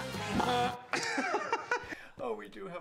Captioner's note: mimics horn; laughing